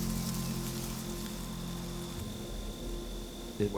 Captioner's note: insects buzzing